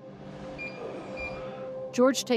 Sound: machine beeping

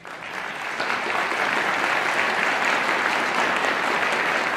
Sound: audience applauding

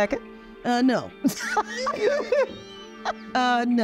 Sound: laughing

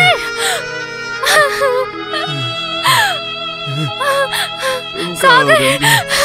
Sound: crying

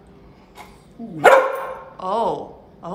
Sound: Gus barking

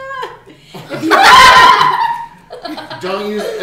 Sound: laughing

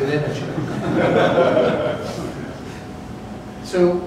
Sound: laughter

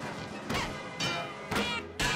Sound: banging

